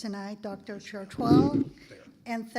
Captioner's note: microphone scraping